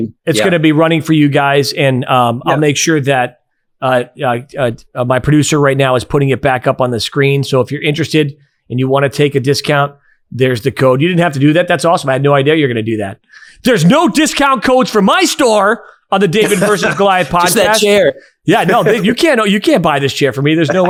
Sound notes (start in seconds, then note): 18.5 laughing